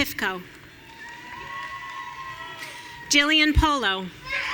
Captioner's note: audience cheering